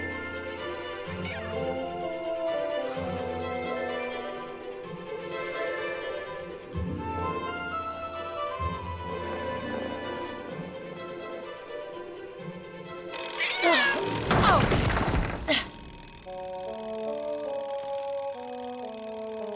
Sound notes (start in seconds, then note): 13.1 alarm ringing; 13.2 cat screeching